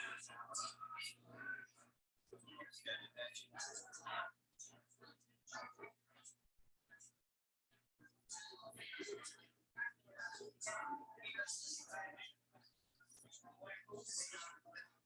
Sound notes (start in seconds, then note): 9.7 people chattering indistinctly